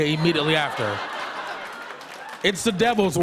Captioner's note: laughter